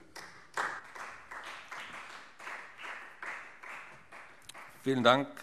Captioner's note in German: Beifall Freie Demokraten